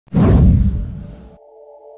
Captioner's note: whoosh Sound